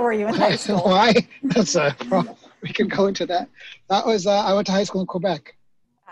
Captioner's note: laughs